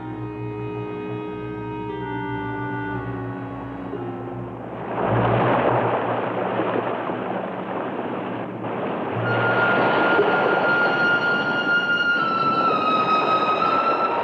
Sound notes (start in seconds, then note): 4.8 waves sploshing; 9.2 brooding music